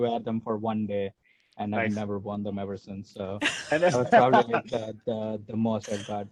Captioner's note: laugh